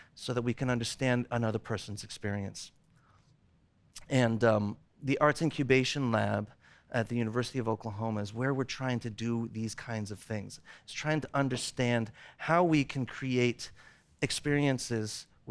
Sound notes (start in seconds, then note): none